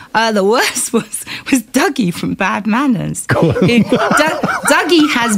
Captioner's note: laughter